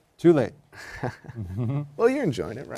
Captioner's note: laughter